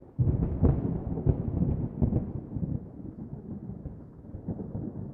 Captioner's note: thunder